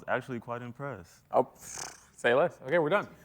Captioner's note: blows raspberry